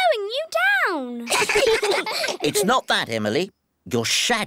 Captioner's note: all giggle